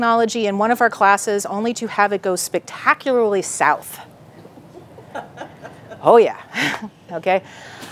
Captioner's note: laughing